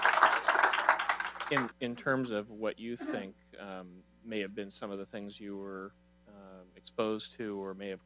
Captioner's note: applause